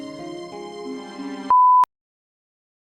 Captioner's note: beeps